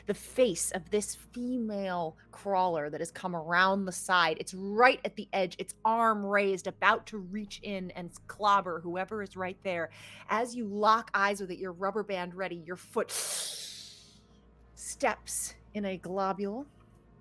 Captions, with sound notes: the face of this female crawler that has come around the side. It's right at the edge, it's arm raised about to reach in and clobber whoever is right there. As you lock eyes or that your rubber band ready, your foot (hisses) steps in a globule.